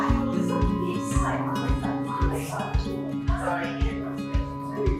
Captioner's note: volunteers chatting